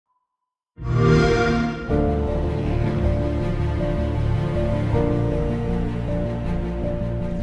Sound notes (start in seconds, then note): 0.8 Xbox sound